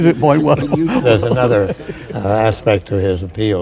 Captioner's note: laughter